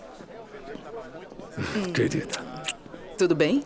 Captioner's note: laughter